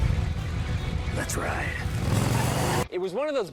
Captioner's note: engine revs; tire squeals